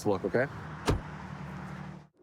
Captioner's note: door bangs